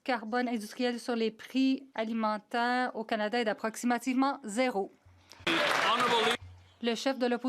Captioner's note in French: voix de l'interprète